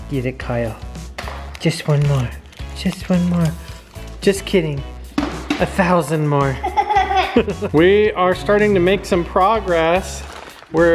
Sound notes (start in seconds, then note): 6.5 laughing